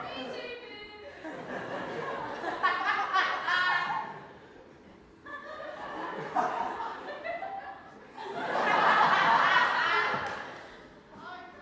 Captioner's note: audience laughs